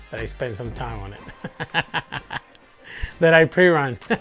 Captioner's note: laughs